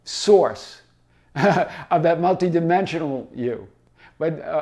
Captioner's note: laughs